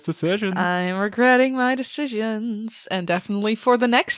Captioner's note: sing-song-y